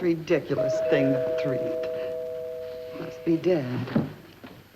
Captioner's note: door bell rings